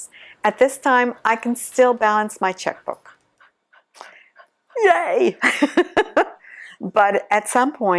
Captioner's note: laughs